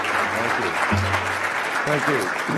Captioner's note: applause